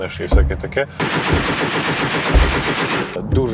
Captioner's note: heavy gunfire